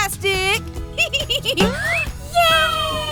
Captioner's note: chuckling